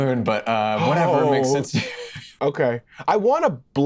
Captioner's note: Lou moans